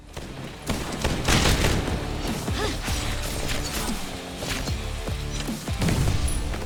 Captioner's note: gunshots and explosions; intense music